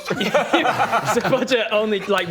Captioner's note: gloating laughter